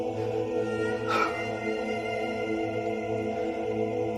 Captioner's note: man weeping